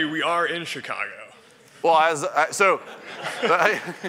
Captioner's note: laughter